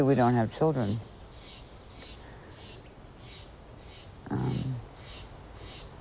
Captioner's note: bird squawking